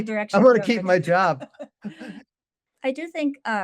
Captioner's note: laughs